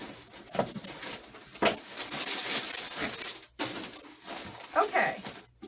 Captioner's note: paper rustling unnecessarily loud